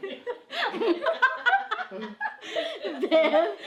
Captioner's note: laughing